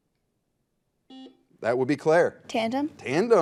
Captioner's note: buzzer